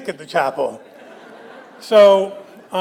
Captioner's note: audience laughs